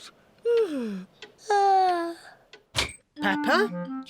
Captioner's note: yawns